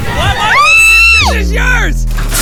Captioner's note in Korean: 비명